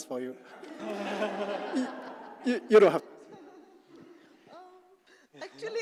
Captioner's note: laugh